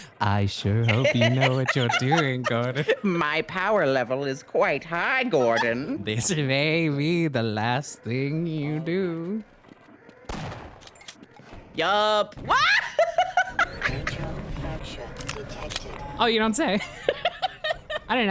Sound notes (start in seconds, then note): 12.5 laughs; 17.5 laughs